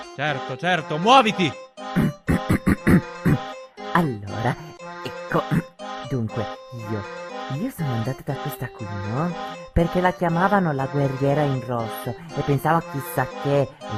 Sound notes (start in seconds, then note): 1.9 coff coff